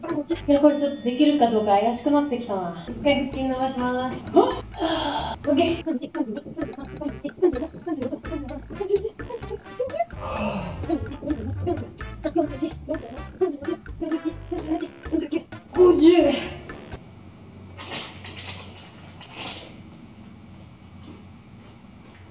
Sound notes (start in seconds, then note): 10.1 exhale